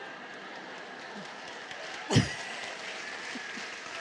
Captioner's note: laughter and applause